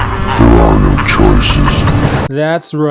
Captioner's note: Pennywise from It laughing